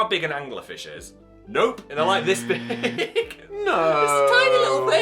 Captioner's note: laughing